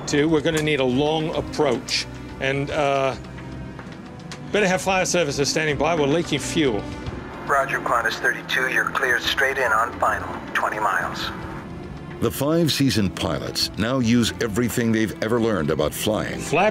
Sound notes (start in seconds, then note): 7.5 man Over Radio